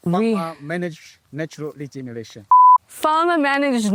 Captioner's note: beeps